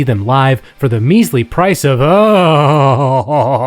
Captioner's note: whimpering